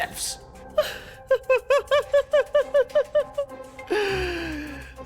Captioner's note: laughs